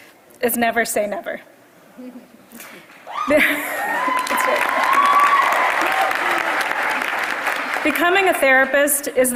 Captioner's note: applause